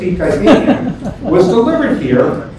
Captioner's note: laughs